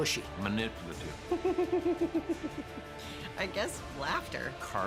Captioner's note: laugh